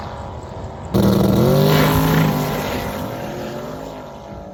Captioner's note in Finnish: Moottorin ääntä